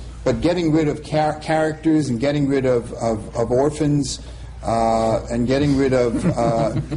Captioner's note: laughter